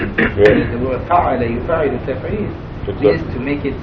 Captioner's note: speaking Arabic